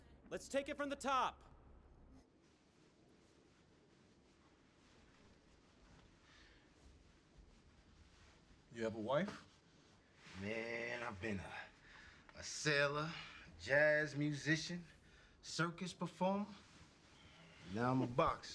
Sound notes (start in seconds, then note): none